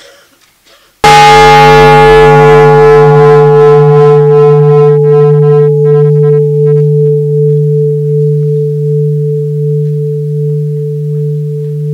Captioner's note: the bell is invited to sound